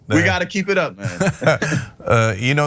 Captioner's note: laugh